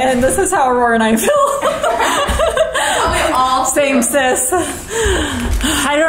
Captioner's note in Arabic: يضحك